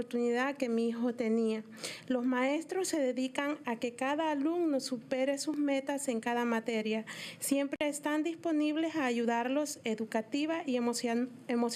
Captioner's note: speaking in spanish